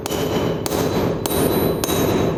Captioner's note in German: Metallische Laute